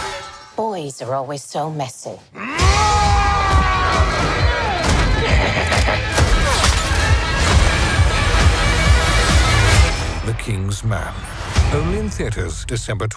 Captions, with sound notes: POLLY Boys are always so messy. [Screaming] [Evil laughter]